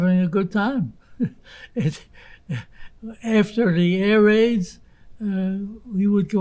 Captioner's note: laughing